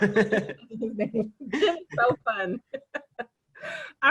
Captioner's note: laughing